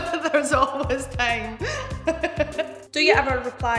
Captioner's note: laughing; laughing